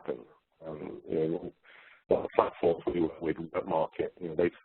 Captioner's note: distorted audio